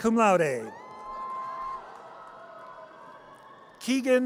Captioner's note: audience cheers